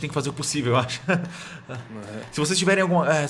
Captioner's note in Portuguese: risadas tímidas